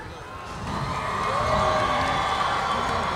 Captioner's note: applause